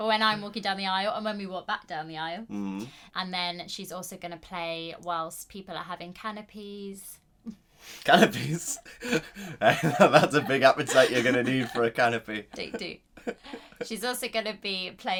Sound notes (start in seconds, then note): 8.2 laughing